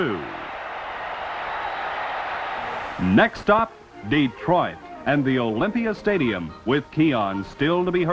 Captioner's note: crowd cheers